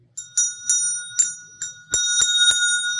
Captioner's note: bell ringing